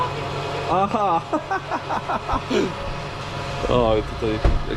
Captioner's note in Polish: śmiech